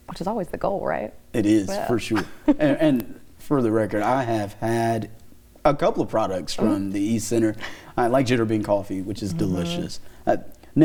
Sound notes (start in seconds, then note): 1.7 laughing